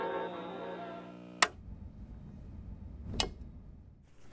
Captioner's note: radio clicking off; light clicking off